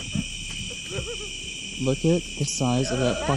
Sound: laughing

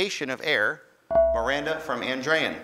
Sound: ding

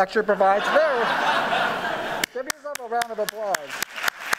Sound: laughing; applauding

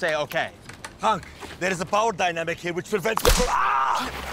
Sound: gunshot

